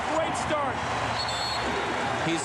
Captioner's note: whistle blows